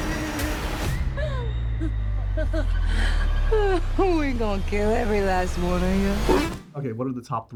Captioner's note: laughs